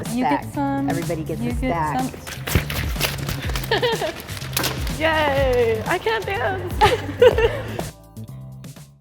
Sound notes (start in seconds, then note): 3.6 laughter; 6.8 laughter